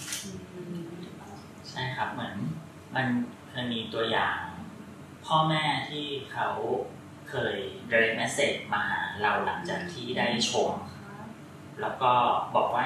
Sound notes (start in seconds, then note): 1.5 continuing in Thai